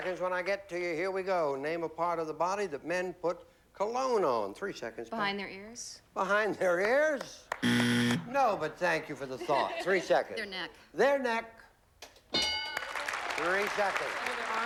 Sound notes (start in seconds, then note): 7.6 buzzer